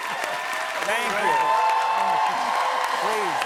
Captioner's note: cheering continues